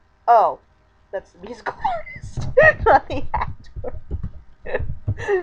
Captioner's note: laughing; laughing